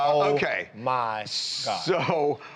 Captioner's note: laughter